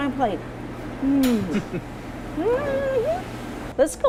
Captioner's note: exclaims; chuckles; exclaims